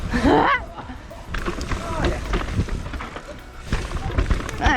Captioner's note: laughs